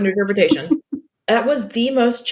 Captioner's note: laughs